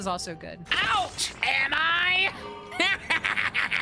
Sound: Green Goblin Voice; maniacal Laughter

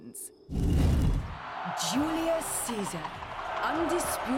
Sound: crowd cheering

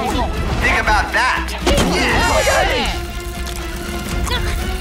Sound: angry murmurs

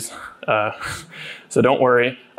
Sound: chuckling

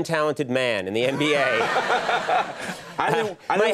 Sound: laughter

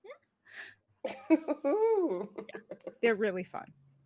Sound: laughs

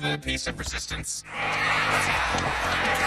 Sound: crowd cheering

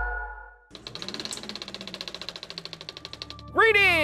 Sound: film rewinding

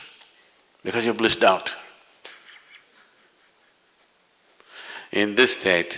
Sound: laughs

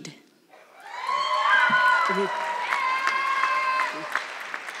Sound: audience clapping

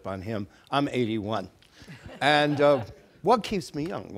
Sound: audience laughing

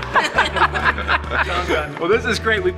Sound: all laughing

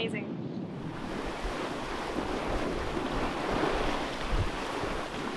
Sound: waves rushing

